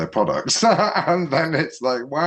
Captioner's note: laughs